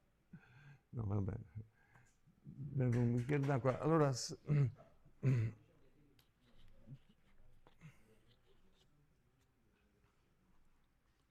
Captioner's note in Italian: schiarire la voce